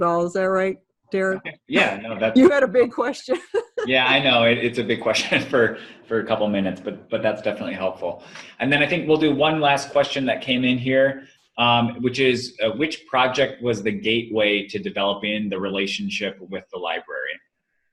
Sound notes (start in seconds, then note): 3.6 laughs